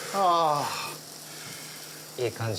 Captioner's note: sighs; sizzling